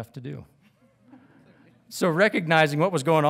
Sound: audience titters

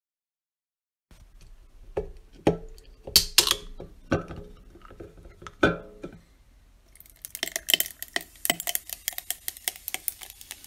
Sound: sound of soda on ice

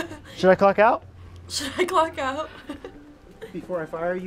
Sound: laughs

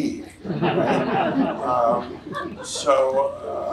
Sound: audience laughs

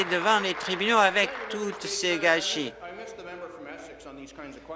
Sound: applause

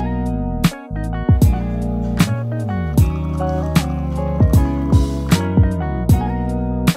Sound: espresso noises

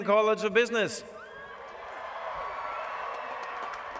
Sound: applause

